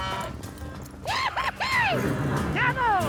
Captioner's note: yells